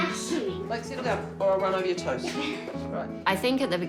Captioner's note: laughs